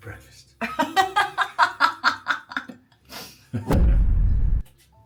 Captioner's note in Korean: 웃음